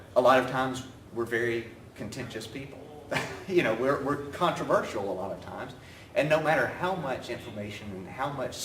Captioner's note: laughs